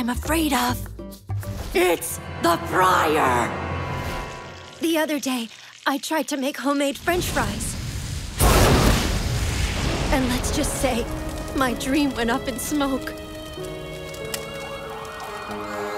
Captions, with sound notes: It's the fryer! The other day, I tried to make home-made French fries.... and let's just say, my dream went up in smoke. (Sirens wailing in distance)